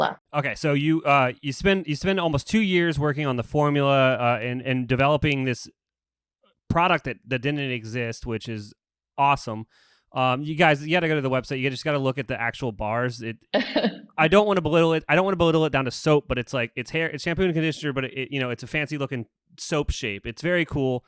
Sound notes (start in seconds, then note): 13.2 laughs